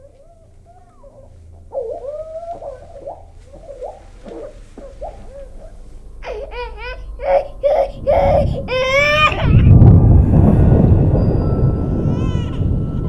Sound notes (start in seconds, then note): 6.2 baby crying